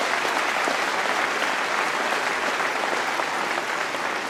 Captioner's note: applause